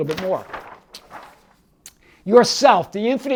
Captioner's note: paper rustles